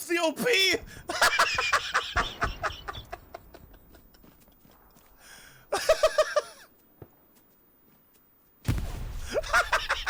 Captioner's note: laughing